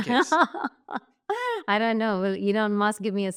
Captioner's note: laughs